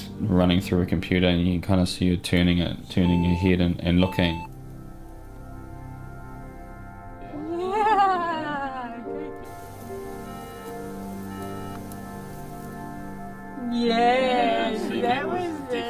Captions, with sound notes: Running through a computer and you can kind of see her turning her head looking (Beep) (Beep, beep ) Yeah, that was good